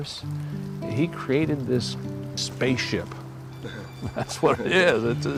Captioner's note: laughs